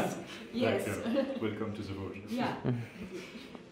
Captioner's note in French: rires